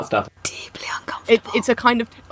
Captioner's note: whispering